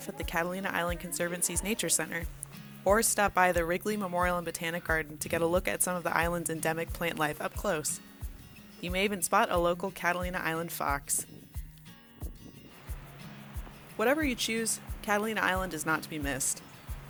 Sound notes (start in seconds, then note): 12.6 waves lapping